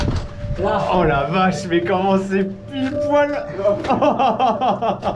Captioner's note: laughs